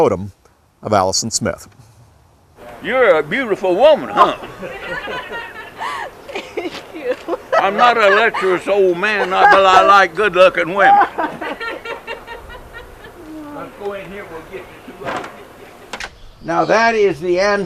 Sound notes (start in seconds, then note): 4.3 laughs; 11.0 laugher